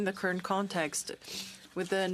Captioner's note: speaking French